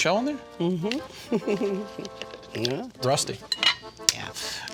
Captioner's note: laughter